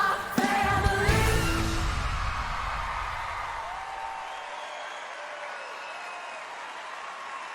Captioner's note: cheers